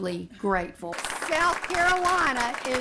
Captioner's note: applause